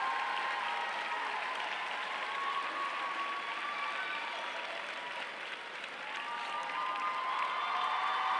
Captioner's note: applause